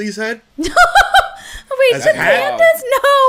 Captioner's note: laughs